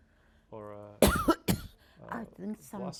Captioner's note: coughing